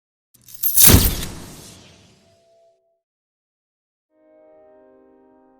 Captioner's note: camera flashing; light music